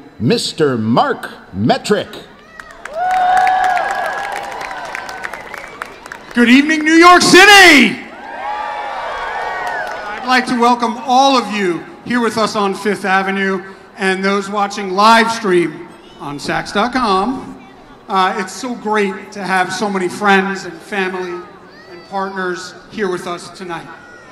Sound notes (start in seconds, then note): 3.0 audience cheers; 8.3 audience cheers